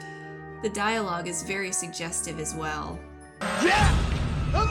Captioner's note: none